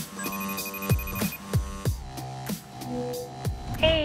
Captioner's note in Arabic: يرن الهاتف